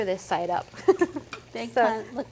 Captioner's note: laughing